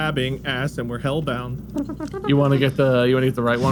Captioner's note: singing; trumpet noises